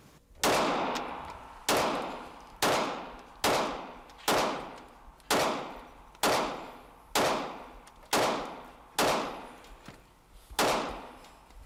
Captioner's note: gun shots